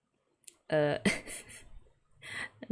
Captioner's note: laughs